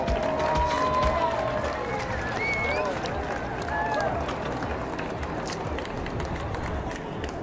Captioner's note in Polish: Aplauz